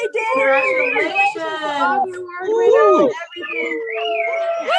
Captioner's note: cheering